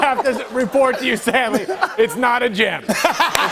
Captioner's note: laughter; laughter